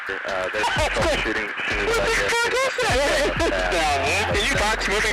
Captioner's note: excited chatter from military personnel